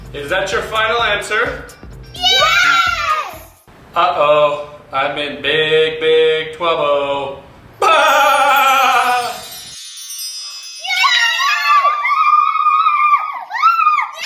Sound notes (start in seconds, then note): 7.8 laughing; 10.8 kids cheering